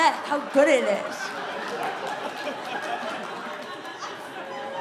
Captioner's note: audience laughing